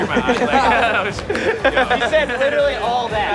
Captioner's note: laughs